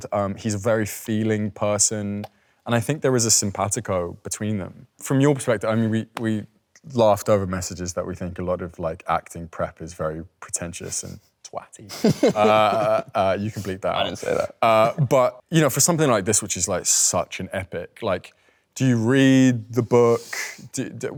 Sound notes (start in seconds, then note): 11.9 Leo chuckles